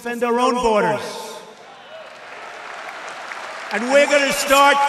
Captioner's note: applause